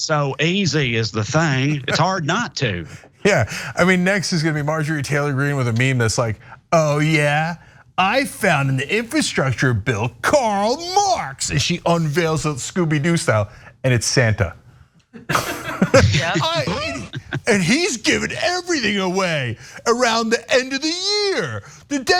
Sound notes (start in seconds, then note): 15.2 laugh